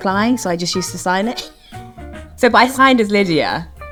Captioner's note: laughs